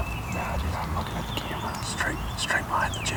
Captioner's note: whispering